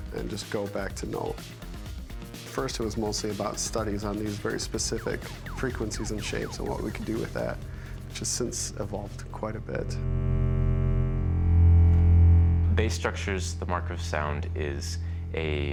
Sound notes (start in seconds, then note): 9.7 monotone plays